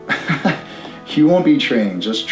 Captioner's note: Matteo laughing